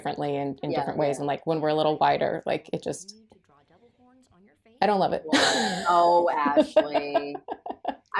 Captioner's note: laughter